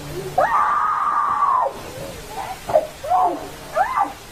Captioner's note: speaking in foreign language; groaning